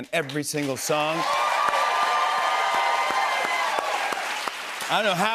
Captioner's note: cheers and applause